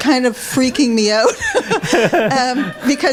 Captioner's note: laughs